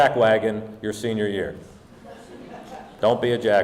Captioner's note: audience laughing